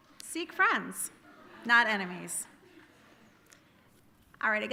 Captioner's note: audience laughing